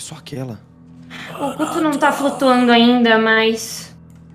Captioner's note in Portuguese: gemidos